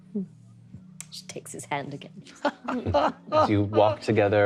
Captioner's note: laughing